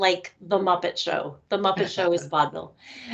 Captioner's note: chuckling